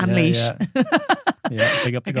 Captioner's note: laughing